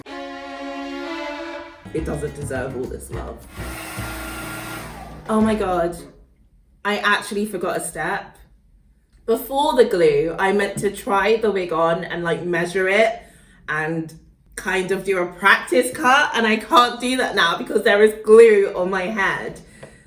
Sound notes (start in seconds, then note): 0.0 suspenseful jazz music; 3.2 blowing noises